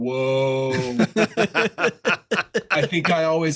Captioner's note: laughter